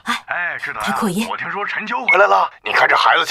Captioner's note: voice amplified